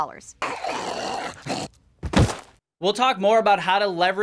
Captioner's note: manic grumbling